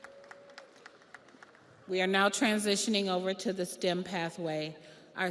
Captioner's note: audience applauds